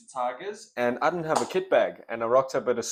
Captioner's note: clap